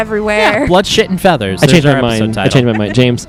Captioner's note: laughs